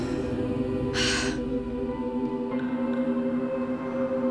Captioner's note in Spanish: exhala